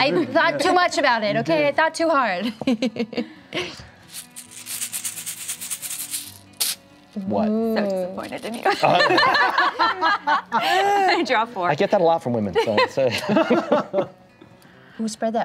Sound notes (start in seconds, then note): 4.1 pieces shaking in bag; 8.7 laughing; 12.6 chuckling